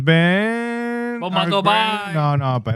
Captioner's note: non-english Speech